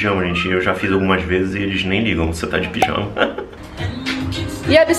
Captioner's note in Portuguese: risos